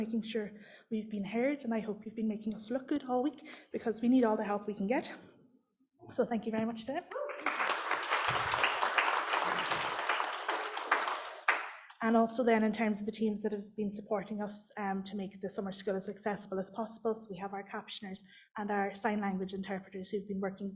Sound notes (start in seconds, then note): 10.4 applause